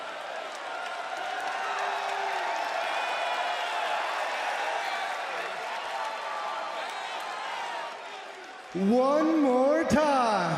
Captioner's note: crowd chatter